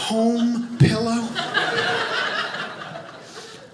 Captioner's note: audience laughing